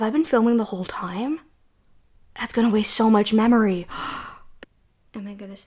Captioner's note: gasp